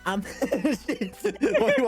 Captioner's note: laughter